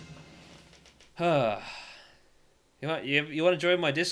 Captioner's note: sigh of moderate relief